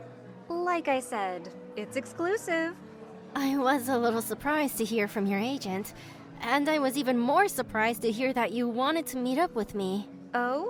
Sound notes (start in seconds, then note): none